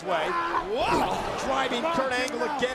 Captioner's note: Brock grunts